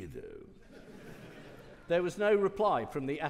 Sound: audience laughing

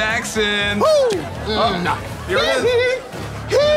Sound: cheering

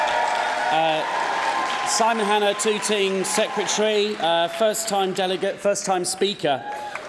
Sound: cheering & Applause

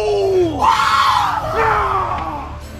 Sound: screams; Santa snarls

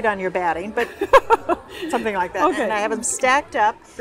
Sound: laughs

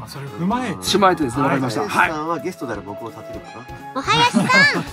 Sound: laughs

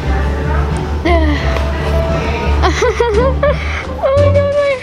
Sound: grunts and laughs

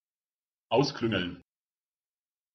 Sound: fast Pronunciation

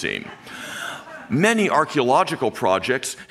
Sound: audience chuckling

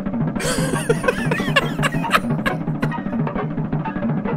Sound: laughs intensely

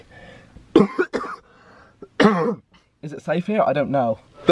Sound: coughs

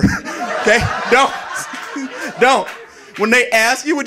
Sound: audience laughing

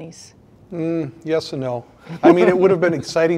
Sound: others laugh

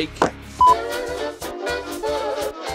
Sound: beep

